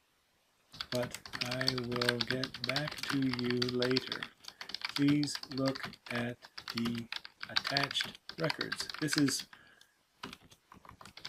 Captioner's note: more typing